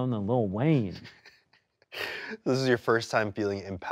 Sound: laughs

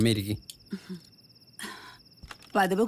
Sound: night Ambient Sound

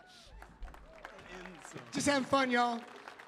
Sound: audience applauding

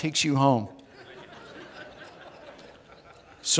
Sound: audience laughs

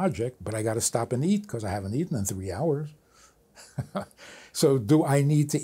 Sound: laughs

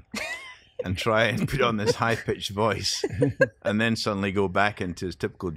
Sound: laughter

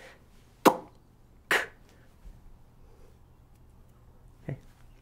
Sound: makes popping sound

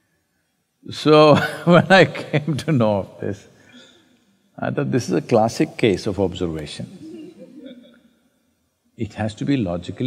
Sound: laughs

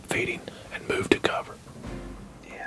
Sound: whispering

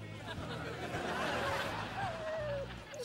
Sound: whimpering

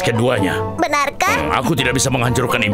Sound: Wilk gasps

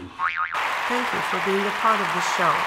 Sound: audience applauding

